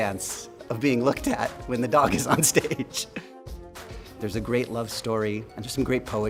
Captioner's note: laughs